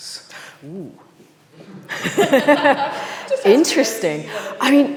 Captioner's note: laughs